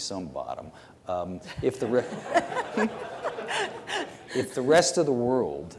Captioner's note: congregation laughs